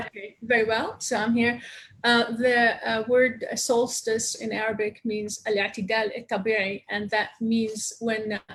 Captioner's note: speaking Arabic